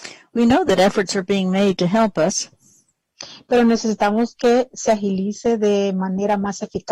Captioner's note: speaking spanish